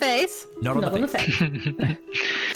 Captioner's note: laughs